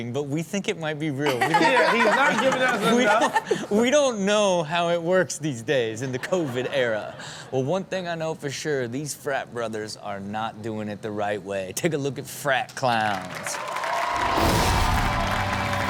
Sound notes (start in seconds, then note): 1.2 Chanel and audience laughing; 12.8 audience cheering and clapping